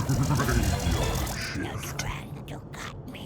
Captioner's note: spooky voice; creepy voice